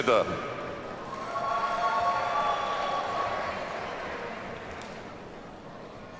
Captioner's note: audience cheers and applauds